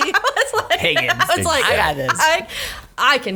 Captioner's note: laughs